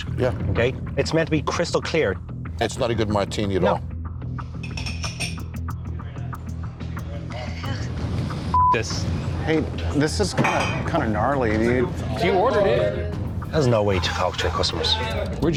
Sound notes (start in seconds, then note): 3.8 tense music; 8.5 beep